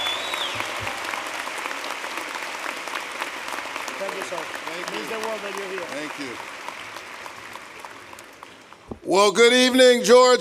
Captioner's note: applause